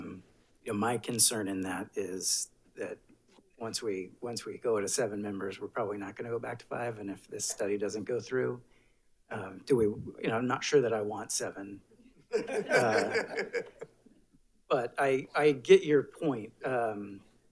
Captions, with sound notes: My concern in that is that once we go to seven members, we're probably not gonna go back to five. And if this study doesn't go through, I'm not sure that I want seven, (attendees laughs) but I get your point.